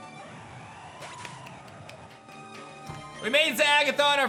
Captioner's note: claps